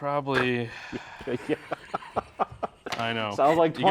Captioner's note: laughing